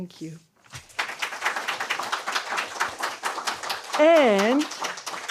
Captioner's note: applause